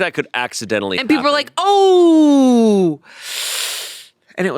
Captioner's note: sucks teeth